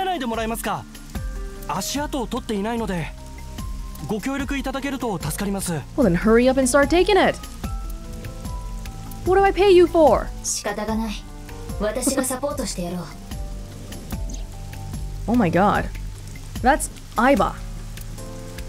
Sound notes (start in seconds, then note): 11.5 chuckles